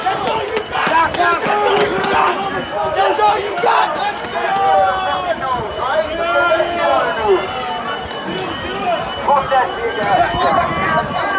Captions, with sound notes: That's all you've got? That's all you got? That's all you got? [crowd yelling] [alarms beeping]